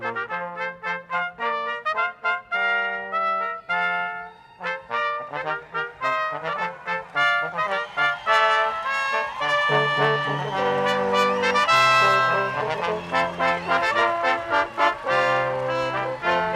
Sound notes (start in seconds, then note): 0.1 brass quintet music; 4.8 audience applauding; 11.2 brass quintet music continues